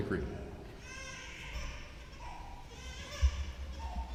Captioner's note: baby cries